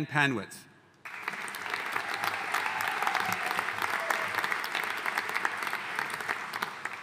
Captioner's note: audience cheering and applauding